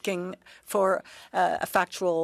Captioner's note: speaking French